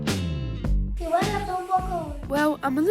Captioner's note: speaks spanish